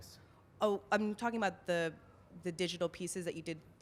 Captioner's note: voiceover